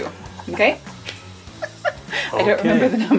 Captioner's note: laughs